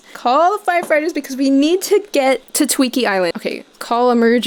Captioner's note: none